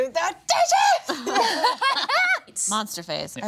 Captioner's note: group laughing